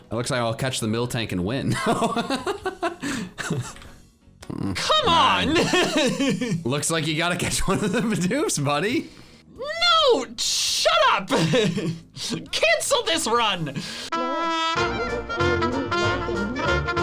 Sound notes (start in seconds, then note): 1.9 laughs; 14.1 upbeat music